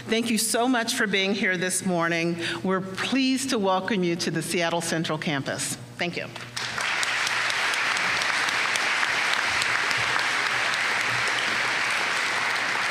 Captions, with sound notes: Thank you so much for being here this morning. We're pleased to welcome you to the Seattle Central campus. Thank you. [APPLAUSE]